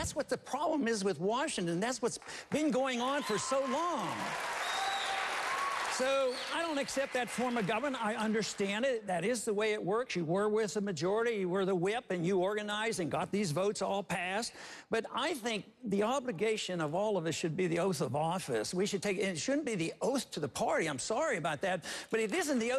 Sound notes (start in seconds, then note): 6.1 applause